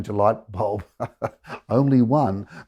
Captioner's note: laughing